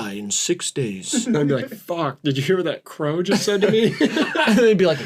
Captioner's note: deep, somber crow voice; all laughing